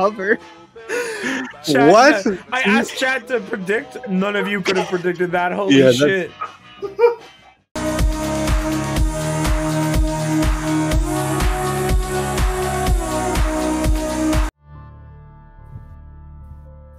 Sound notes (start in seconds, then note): 7.7 Baaulp makes a Baaulp®️ Amused Noise™️